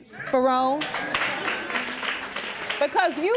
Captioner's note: audience clapping